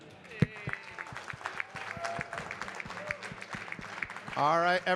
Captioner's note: audience cheering and clapping